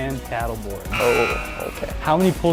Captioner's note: error Buzzer